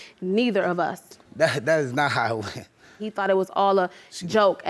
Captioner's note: laughs